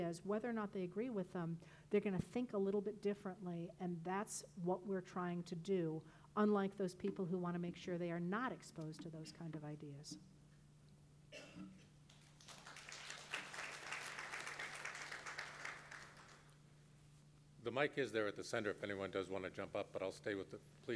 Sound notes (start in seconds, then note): 12.0 crowd applauding